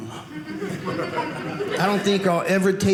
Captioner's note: audience laughing